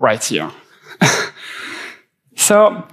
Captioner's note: laughing gently